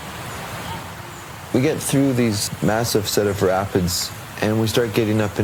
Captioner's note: loud rapids sound